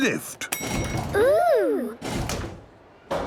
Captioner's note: lift pings